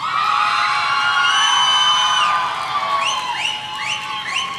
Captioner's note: audience cheering